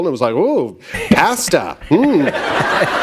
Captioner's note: laughter